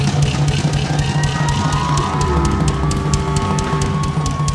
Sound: crowd cheering

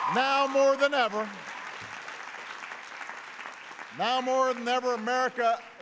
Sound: applause

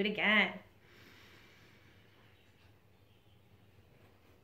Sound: deep breathing

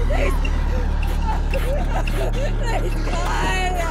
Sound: sobbing

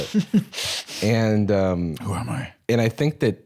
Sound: laughs

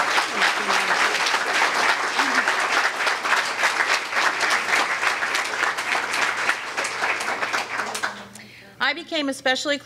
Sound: applause

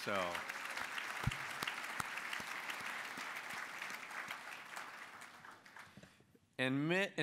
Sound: applause

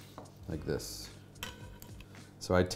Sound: knife clatters

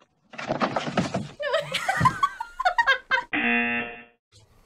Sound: both laughing

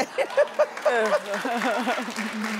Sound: laughing; audience clapping

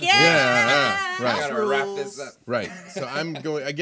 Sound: group murmuring

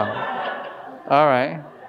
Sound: audience laughing

